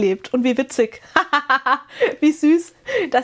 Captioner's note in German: gelächter